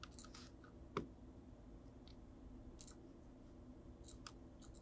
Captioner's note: mouse clicking